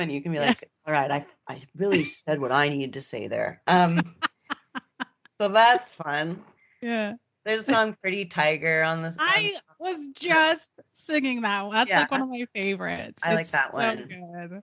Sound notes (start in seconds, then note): 3.4 laughing